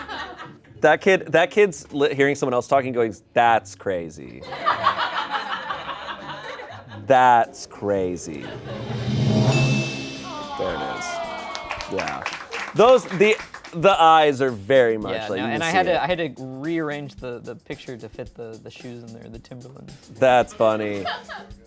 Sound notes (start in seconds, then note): 8.4 bell dings; 10.5 audience applauds